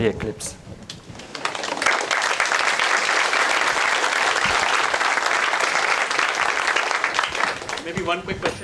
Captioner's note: applause